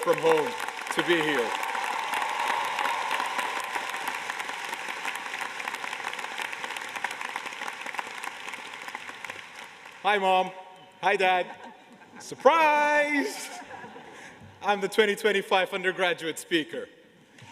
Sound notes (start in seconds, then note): 4.2 applause